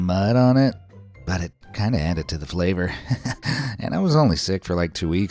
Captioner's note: chuckles